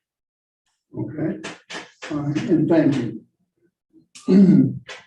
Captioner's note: clears throat